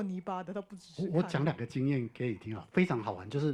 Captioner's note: Mandarin